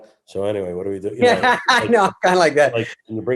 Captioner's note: David laughs